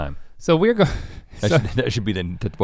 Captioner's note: chuckles